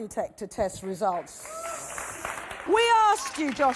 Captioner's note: audience applauding and cheering